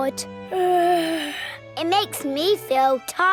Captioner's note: yawns